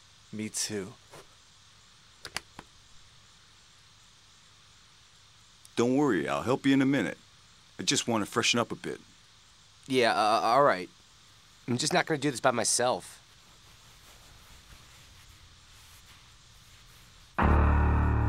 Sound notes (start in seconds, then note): none